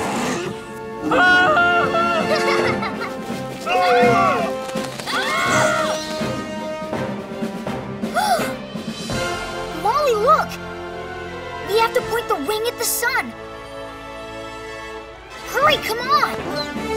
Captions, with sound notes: [screaming] [laughing] [screaming] [gasping] Molly, look! We have to point the wing at the sun! Hurry! Come on!